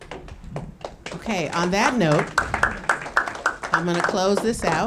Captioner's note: audience clapping